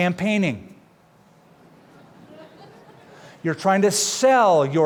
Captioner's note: laughter